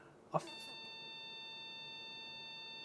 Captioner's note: beeping